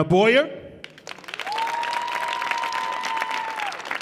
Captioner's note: audience cheering